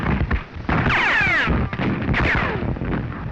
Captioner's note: firing continues